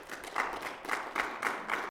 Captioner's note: audience applauding